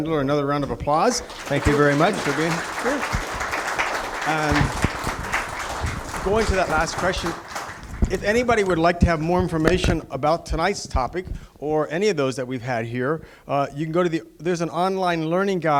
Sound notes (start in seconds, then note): 4.0 applause